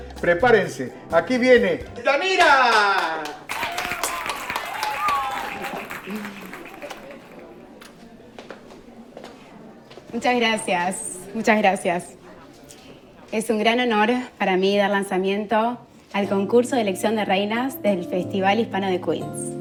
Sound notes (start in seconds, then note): 2.3 cheering; 2.4 clapping; 6.7 kissing; 8.3 footsteps; 16.2 soft Music Playing